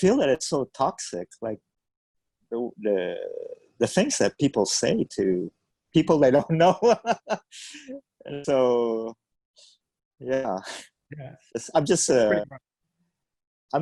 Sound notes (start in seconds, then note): 6.2 laughs